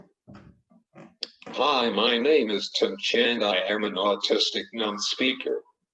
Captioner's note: computer voice